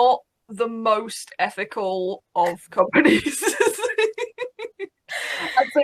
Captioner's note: laughs